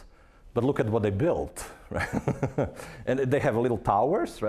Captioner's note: chuckling